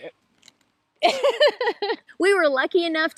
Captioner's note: laughs